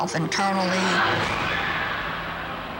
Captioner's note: crowd screams